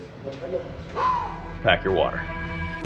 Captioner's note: whistling